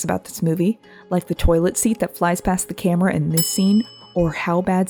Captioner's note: ding sound